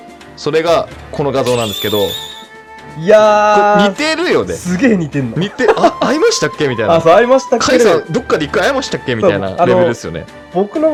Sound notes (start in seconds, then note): 10.0 laughs